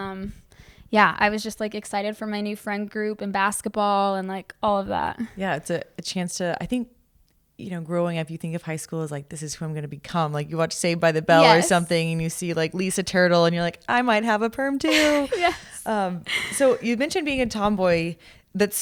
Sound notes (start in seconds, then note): 14.9 chuckle